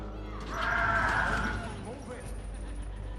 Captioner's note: shrieking